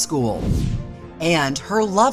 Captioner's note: transition whooshes